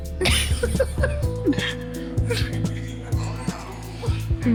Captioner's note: laughter